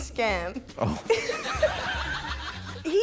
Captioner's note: laughs